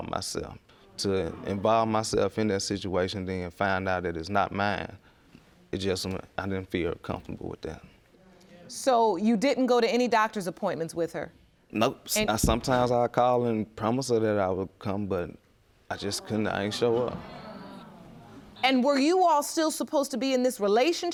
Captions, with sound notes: To involve myself in that situation and then find out it is not mine... It just... I didn't feel comfortable with that. So you didn't go to any doctor's appointments with her? Nope. And sometimes I would call and promise that I would come, but I just couldn't show up. (AUDIENCE GROANS) And were you all still supposed to be in this relationship at the time?